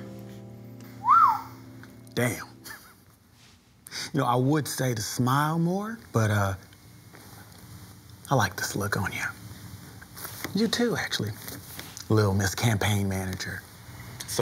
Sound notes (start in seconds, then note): 0.9 whistles; 3.0 chuckles